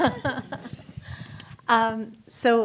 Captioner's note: laughs